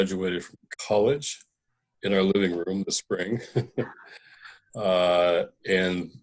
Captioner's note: laughter